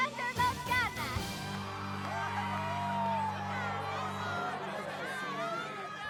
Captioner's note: cheers